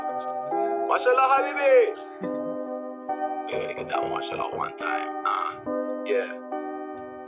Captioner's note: non-english